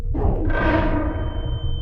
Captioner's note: echoes; ominous musical score; echoes